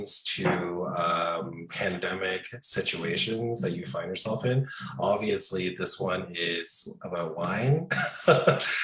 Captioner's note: laughing